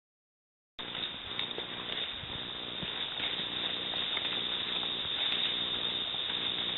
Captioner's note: leaves rustling softly